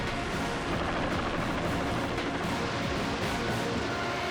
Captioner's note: helicopter whirring